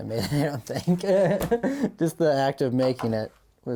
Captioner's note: laughing